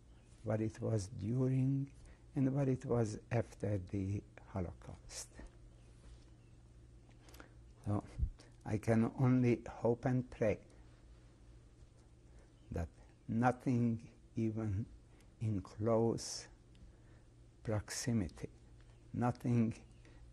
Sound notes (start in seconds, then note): 4.5 pauses for 3 seconds